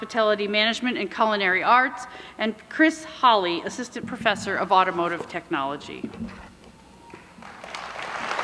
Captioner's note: applause